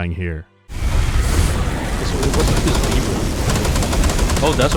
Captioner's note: chaotic sounds of battle